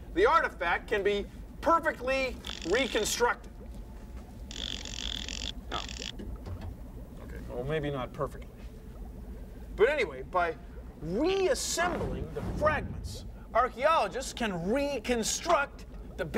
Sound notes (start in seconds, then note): 4.5 <i> ratchetting</i>